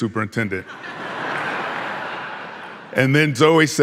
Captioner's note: audience laughing